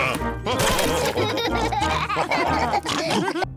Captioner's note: all laugh